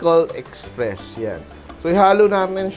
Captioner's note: sizzle